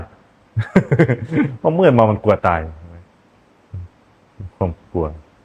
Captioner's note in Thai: เสียงหัวเราะ